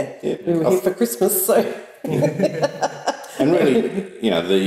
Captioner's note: laughs